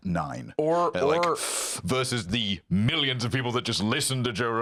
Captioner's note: seething